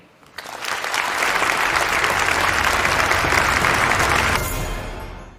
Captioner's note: applause